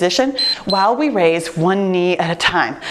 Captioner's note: timer beeps